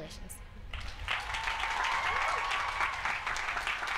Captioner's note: applause and cheers